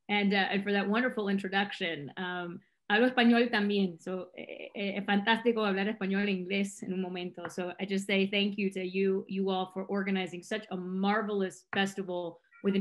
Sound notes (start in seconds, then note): 2.9 speaking in Spanish